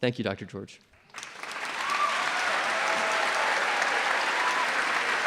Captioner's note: applause